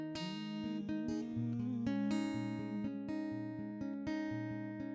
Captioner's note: hums